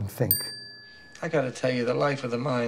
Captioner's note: bell dings